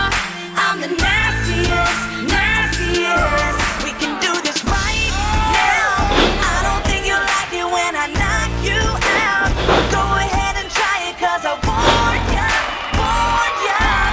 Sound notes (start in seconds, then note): 8.6 thud; 13.8 crowd cheering